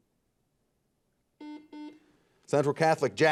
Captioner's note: buzzer beeping